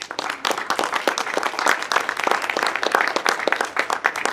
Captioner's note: audience clapping